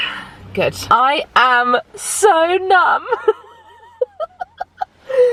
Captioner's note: laughs